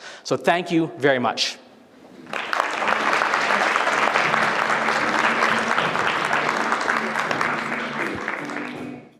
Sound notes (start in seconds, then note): 2.2 applause; 6.1 audience applauding